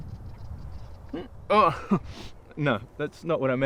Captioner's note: laughing